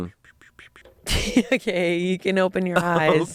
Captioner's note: laughs